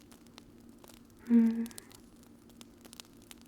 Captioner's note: happy purrs